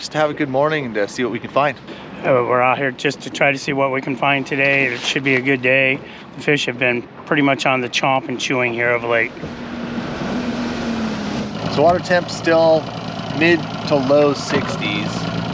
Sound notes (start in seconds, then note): 9.8 boat engine running